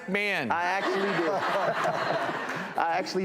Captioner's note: laughs; audience laughs